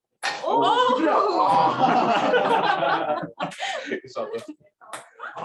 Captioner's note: laughter